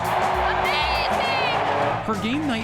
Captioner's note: crowd cheers